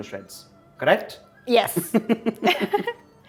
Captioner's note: chuckles